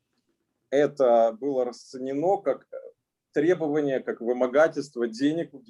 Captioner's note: speaking Russian language